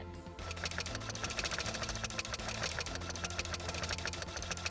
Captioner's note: printer buzzing